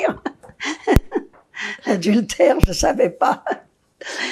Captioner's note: laughing